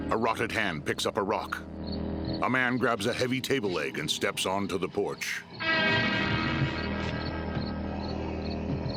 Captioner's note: dramatic music; crickets chirping; moaning